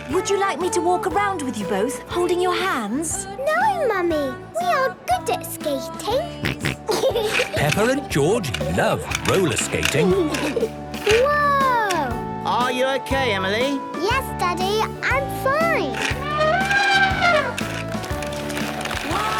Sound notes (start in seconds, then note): 6.3 snorting and giggling; 10.2 laughter; 15.4 trumpeting